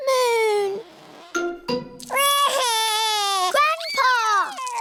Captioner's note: wails